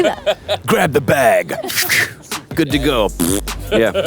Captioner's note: sound effect impersonation